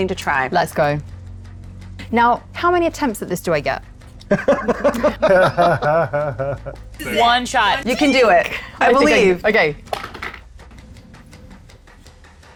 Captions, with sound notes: anything to try. - Let's go. Now, how many attempts at this do I get? (group laughs) - One shot. - You can do it. I believe. - Okay, okay. (die rattles)